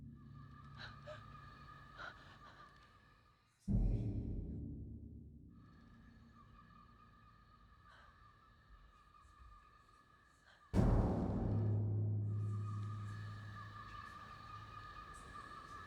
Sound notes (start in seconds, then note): 0.6 outdoor night ambiance, heavy breathing; 3.3 whispers, bass drum hit; 6.0 outdoor night ambiance, heavy breathing; 10.7 loud bass drum hit; 12.6 outdoor night ambiance, heavy breathing